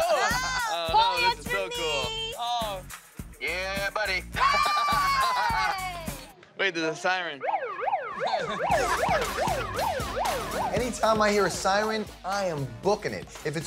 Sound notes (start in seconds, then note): 4.4 cheers; 7.2 siren blares